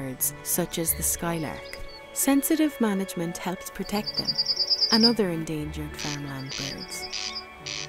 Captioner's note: corncrake calls